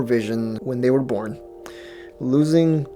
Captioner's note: inhale